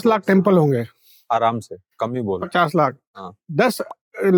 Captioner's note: speaking in Hindi